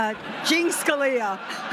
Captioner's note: laughter